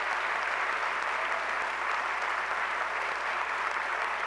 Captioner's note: applause